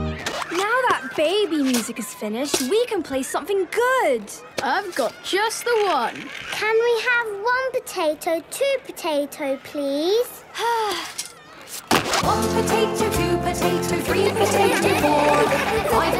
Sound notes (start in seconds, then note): 10.6 Belinda sighing; 14.2 laughter